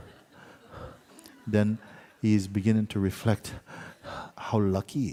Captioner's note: labored breathing sounds